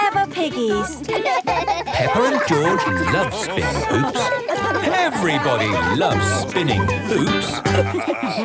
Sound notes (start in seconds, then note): 0.0 laughs; 1.6 both laugh